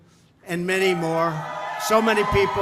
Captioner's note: applause